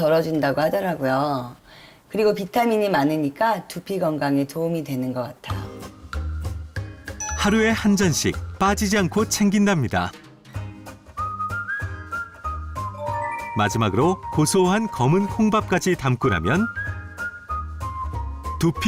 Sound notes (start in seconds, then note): 4.3 voiceover